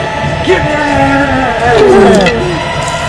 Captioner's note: the saddest death sounds yet